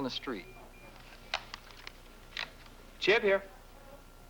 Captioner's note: beep beep